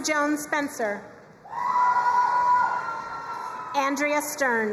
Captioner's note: crowd cheering and applauding